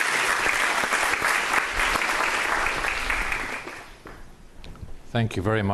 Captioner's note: audience applauds